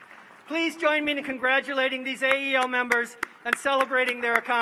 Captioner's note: applause